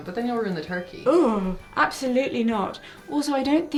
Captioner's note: shuddering